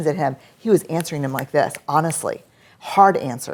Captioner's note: snaps